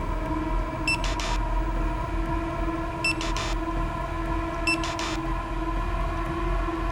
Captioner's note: unnerving music; scanner buzzing